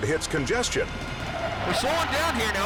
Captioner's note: car screeching